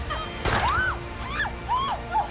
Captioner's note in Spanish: Gritos; Disparo